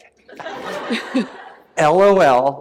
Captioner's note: laughter